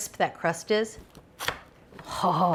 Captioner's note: crust crunching